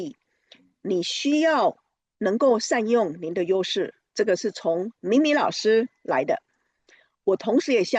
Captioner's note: speaking Chinese